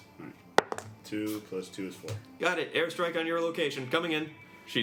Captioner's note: rolls dice